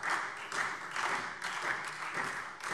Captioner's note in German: Beifall SPD, Freie Demokraten und DIE LINKE